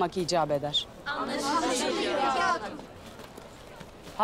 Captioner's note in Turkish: Hep bir ağızdan